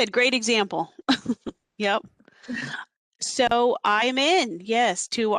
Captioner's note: laughter